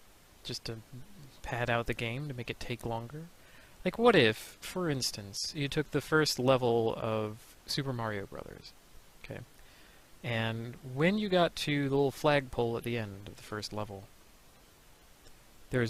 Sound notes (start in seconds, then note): none